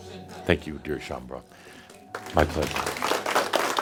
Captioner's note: audience applause